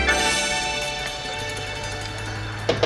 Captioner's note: knock on door